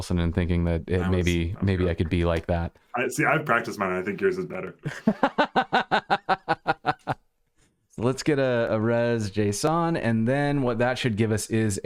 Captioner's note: laughter